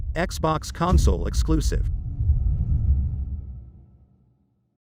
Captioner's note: dramatic sound